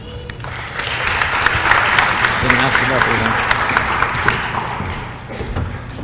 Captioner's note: applause